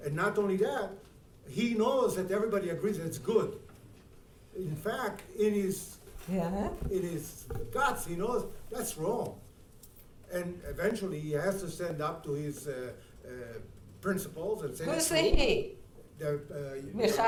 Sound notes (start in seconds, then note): 6.0 speaking in foreign language